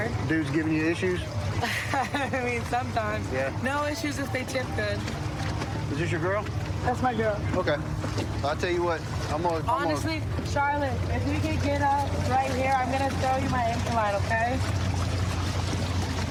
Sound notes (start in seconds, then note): 1.6 laughs